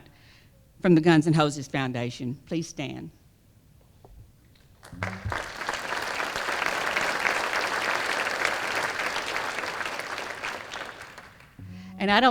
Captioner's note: applause